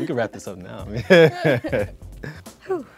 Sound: couple laughs

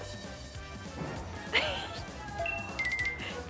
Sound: hehe

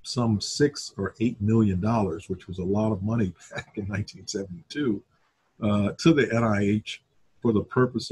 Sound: chuckle

